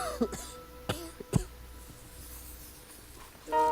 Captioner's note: coughing; music fades; coughing